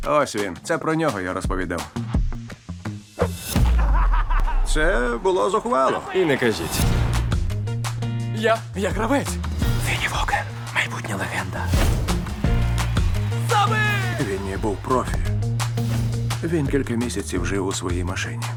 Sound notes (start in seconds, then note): 3.7 laughter; 6.7 upbeat music playing; 12.2 crowd cheering and applauding